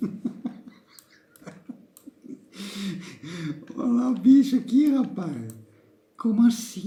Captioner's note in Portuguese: risos